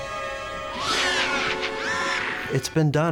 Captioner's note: shrieks